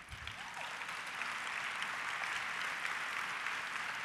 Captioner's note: audience applause